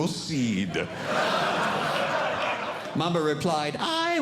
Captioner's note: audience Laughing